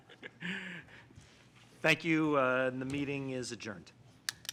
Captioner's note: chuckling